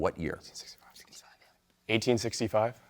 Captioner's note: team whispering